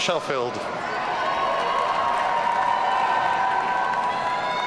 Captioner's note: audience cheering